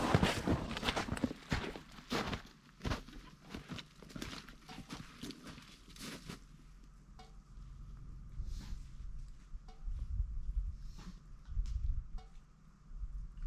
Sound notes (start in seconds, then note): 2.8 footsteps; 7.2 tense music